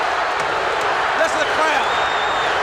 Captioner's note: crowd chants "Luger"; feet stomping